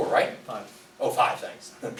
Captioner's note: voiceover